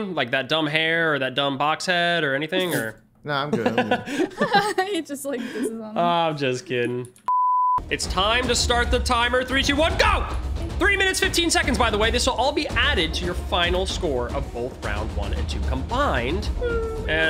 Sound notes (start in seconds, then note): 3.5 chuckle; 7.2 screen beeps